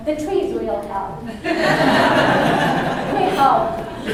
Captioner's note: laughter